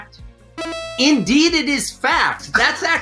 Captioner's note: electronic tones